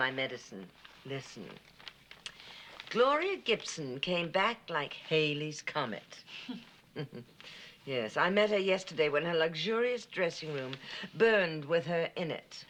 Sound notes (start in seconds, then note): 6.9 chuckles